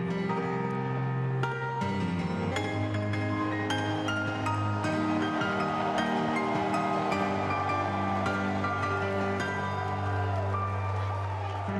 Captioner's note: cheers and applause